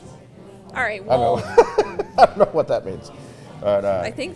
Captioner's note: laughs